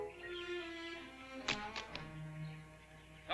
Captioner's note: dramatic tone; guns clatter on ground